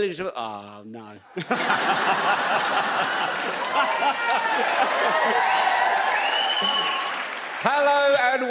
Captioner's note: Audience and Romesh laugh